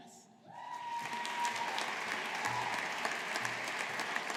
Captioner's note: audience applauding